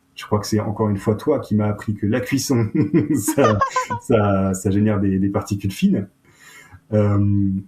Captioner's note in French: rires